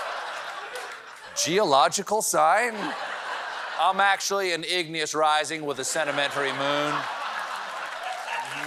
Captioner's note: laughter